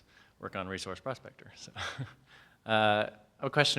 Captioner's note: chuckles